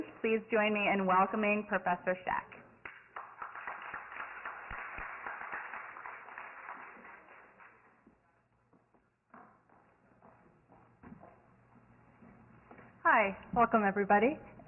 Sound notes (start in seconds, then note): 2.8 Applause